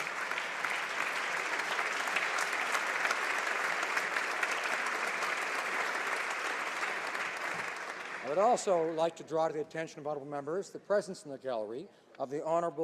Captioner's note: applause